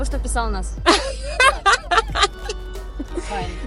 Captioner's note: laughing